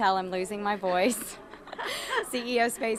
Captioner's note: both laughing